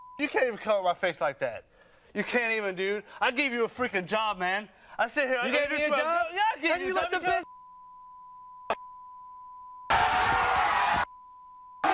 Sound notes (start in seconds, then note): 7.5 beep; 9.9 audience cheering; 10.0 beep